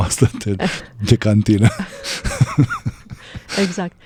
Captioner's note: laughter